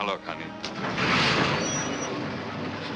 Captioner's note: train starts abruptly